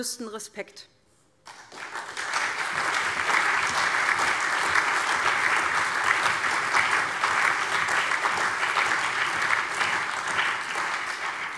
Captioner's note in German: Allgemeiner Beifall